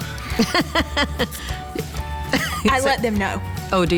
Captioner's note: laughs